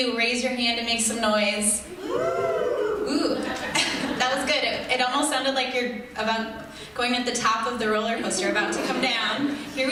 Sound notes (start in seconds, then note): 2.0 scattered audience hoots, then laughter